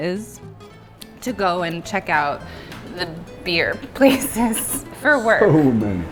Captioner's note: laughs